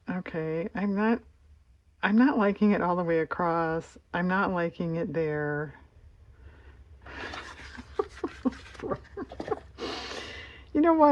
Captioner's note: laughs